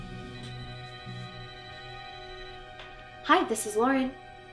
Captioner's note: phone ringing